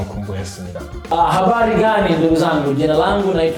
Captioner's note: introducing himself in Swahili~